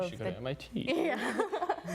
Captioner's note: laughing